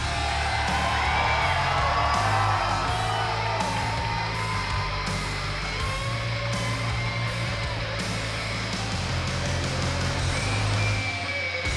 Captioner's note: cheers and applause